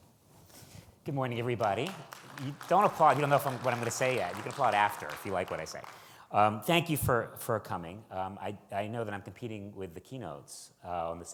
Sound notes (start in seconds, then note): 1.3 audience applauds